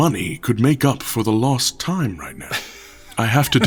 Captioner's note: laughs